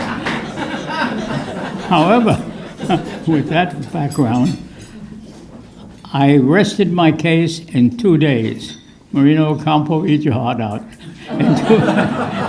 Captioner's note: laughter